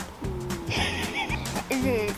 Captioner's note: laughter